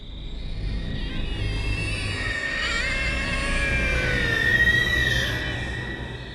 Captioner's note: multiple birds screech at once